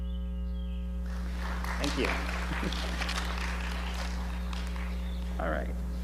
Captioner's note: audience applauds